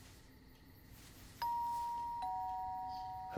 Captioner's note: doorbell rings